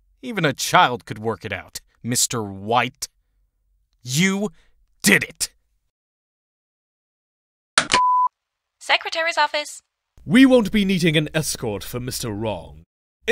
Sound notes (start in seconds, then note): 7.8 CLICK, intercom beeps